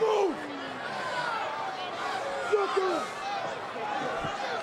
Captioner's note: crowd yelling